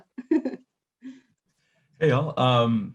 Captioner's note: chuckles